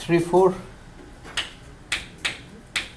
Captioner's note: voiceover